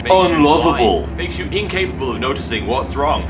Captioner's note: more laughter